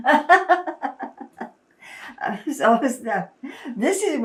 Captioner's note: laughing